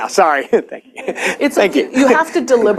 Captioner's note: chuckles